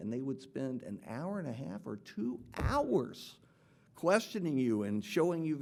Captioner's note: none